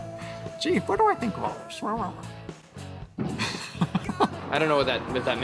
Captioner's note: laughs